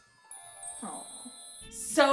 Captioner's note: chimes